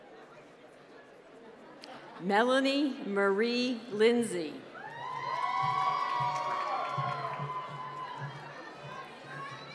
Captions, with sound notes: Melanie Marie Lindsey. (cheering)